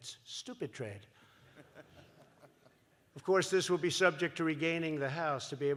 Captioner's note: laughter